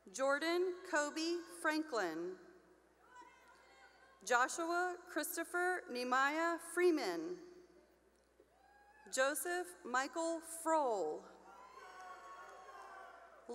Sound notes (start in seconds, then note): 2.8 cheering; 7.8 cheering; 11.4 cheering